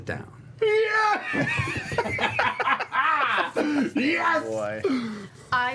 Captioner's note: laughs